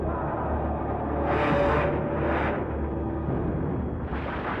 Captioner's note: harrowing music; plane engines roaring